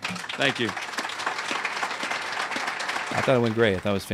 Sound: applause

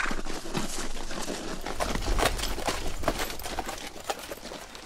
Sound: hooves clopping; wings flapping

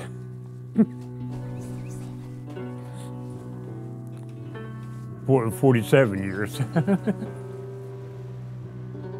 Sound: laughs

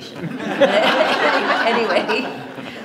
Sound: audience laughs

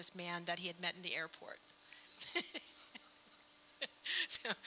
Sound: laughing

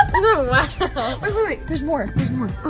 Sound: laughs

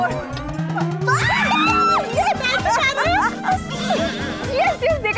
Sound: shrieks

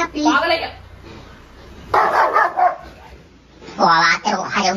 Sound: Roxy is barking vigorously

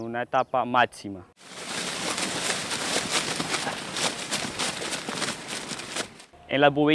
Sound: sonido al pisar pasto

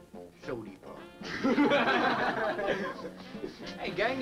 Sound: group laughs

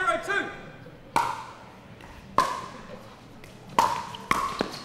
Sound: ball bouncing

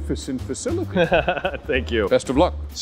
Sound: laughs

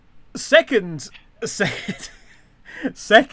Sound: laughing

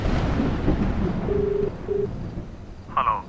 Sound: line ringing

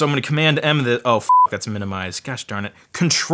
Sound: beep

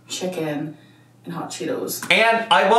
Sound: none

